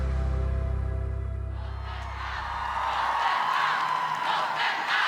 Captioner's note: crowd; crowd chanting